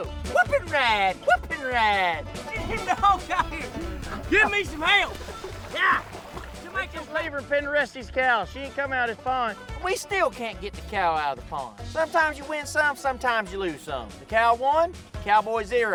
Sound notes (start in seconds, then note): 2.5 laughing